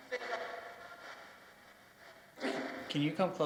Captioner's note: ghostly voices warbling